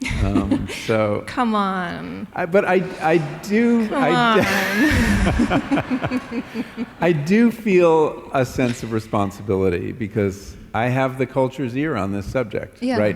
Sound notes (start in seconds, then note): 2.8 laughter